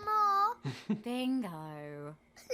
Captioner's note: chuckles